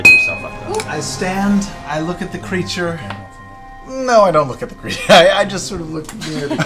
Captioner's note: laughs